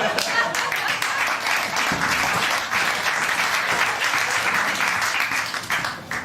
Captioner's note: laughter; applause